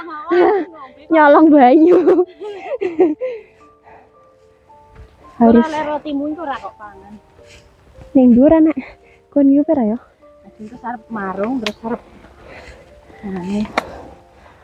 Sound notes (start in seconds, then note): 10.1 grumbling